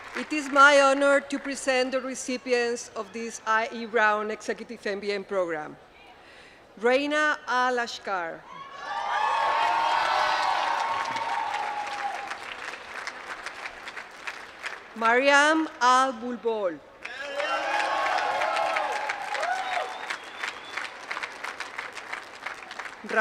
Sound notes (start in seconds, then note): 11.8 applause; 20.0 applause